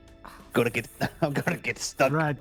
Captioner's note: laughs